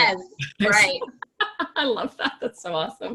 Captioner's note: laughs